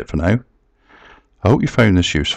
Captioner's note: pause